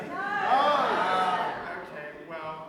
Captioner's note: audience shouts no